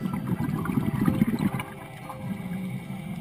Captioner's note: scuba diving bubbling